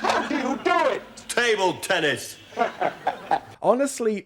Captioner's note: chortles